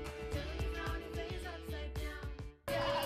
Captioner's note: uplifting indy music; upbeat rock music; audience cheering